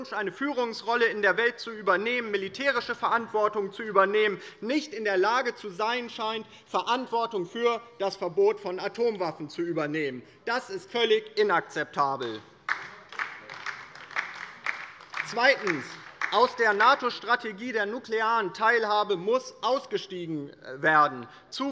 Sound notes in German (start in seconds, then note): 12.2 Beifall bei der LINKEN